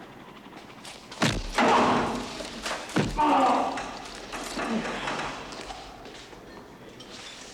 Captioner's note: thudding; Ian groaning